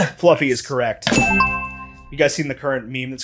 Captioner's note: bell dings